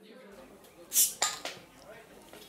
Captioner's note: bottle cap pops